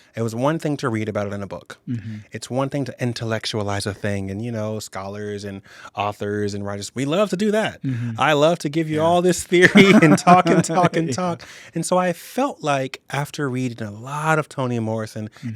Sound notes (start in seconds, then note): 9.4 chuckling; 9.4 laughs